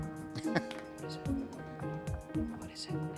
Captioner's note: chuckles